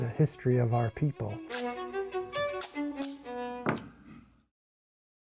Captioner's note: tape ripping